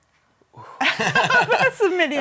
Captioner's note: laughing